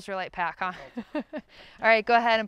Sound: chuckles

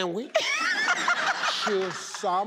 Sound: laughing

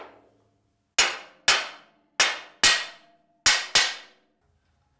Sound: hammer clanging

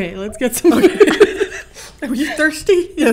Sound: laughter

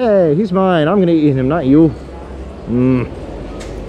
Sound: grunts

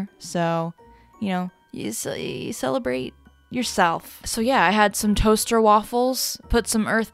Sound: mumbles

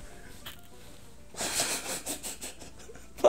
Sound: chuckling; breathy laughs

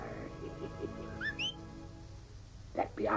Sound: whistling

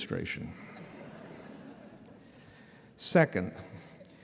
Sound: laughter

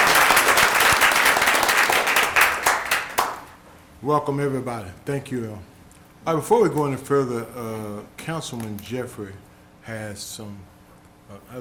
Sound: applause

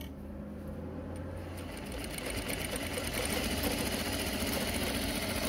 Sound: machine whirs

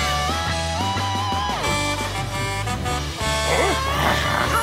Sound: horn honking

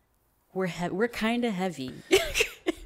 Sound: laughs

